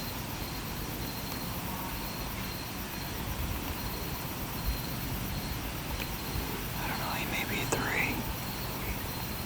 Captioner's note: whispering